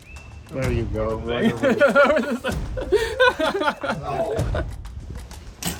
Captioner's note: laughs